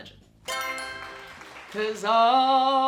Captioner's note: answer board chimes; crowd claps